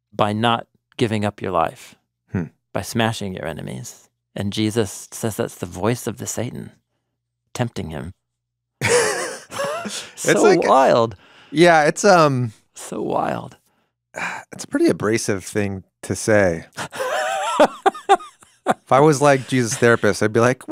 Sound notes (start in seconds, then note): 8.8 both laughing; 16.7 laughing